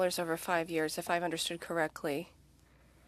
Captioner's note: speaking French